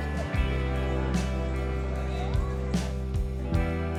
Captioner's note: laughing; crowd murmuring